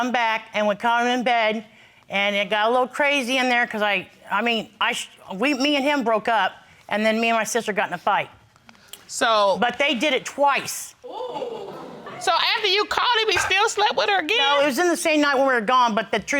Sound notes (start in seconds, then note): 11.2 crowd gasping